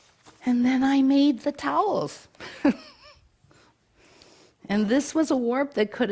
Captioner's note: chuckles